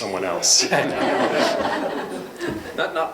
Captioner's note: laughter